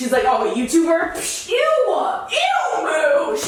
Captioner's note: scoffs